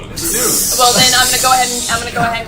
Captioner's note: hissing